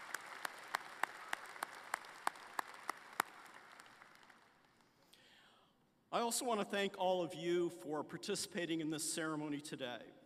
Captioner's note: applause